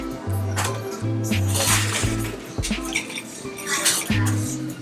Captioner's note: shoveling ice